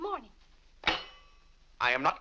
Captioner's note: silverware slams